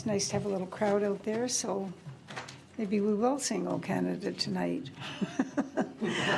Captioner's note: laughs